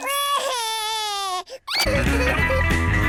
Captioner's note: cries